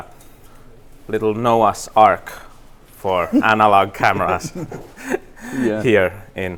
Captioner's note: Destin laughing